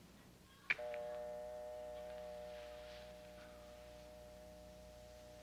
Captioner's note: dial tone ringing